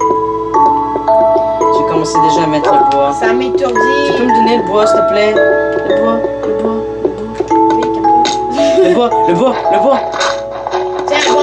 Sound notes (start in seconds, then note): 0.0 music and sound of the game; 8.2 laughs